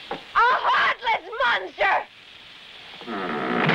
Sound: none

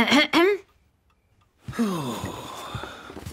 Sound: clears throat; sighs

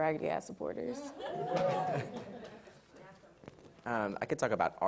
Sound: audience laughs

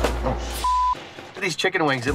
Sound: beep

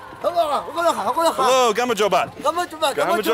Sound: speaking Georgian; speaks Georgian

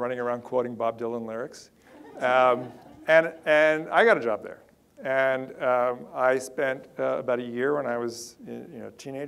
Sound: audience laughter

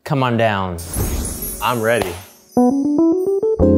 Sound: gentle bells ringing; gentle jazz music

